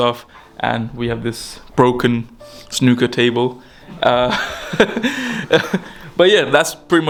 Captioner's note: laughing